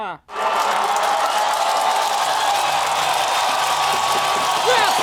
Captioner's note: cheering